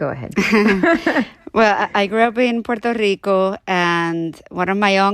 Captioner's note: laughter